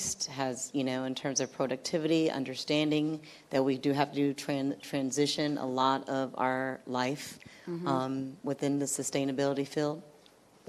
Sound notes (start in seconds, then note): none